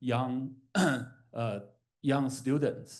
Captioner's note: coughs